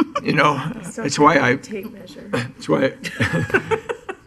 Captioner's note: laughing